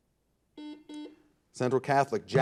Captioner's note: buzzer beeping